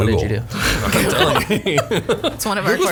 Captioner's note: group laughing